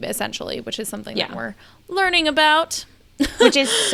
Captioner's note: laughs